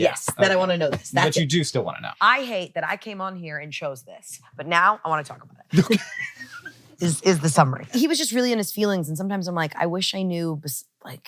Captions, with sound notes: Yes, that I wanna know this. That's it. But you do still wanna know. I hate that I came on here and chose this, but now I wanna talk about it. Okay (laughs). Is the summary. He was just really in his feelings, and sometimes I'm like, I wish I knew,